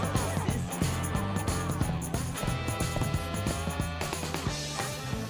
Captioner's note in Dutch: voetstappen